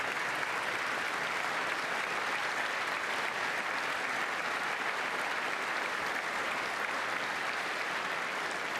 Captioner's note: applause